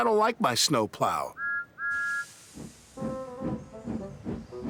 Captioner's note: whistles